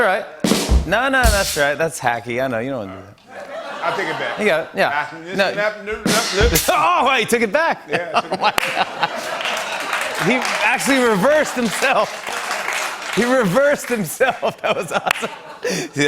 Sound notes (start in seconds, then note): 1.2 rimshot; 5.1 imitates reverse speaking; 9.1 applause